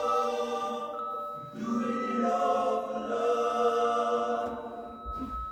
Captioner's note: heart monitor stops